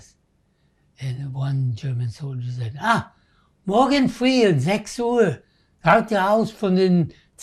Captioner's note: german